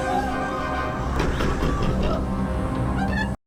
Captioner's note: snake hissing; door banging